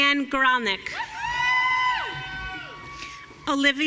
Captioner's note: audience cheering